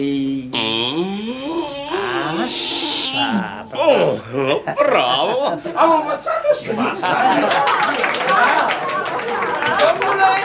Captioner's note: sound of applause